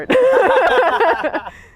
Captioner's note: camera Man and laughing